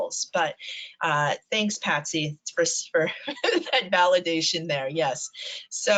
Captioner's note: laughs